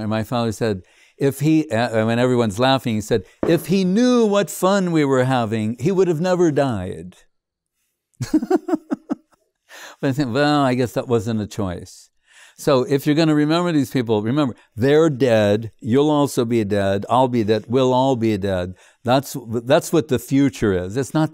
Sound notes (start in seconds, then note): 8.2 laughing